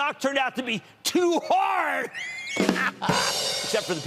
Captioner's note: laughter